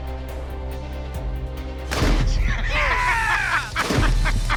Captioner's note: gunshot; laughs